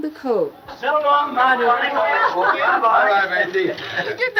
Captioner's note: all laughing